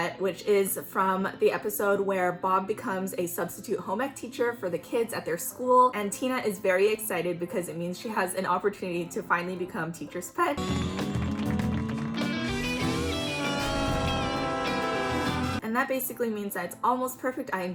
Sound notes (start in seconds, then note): 13.2 ahhhhhh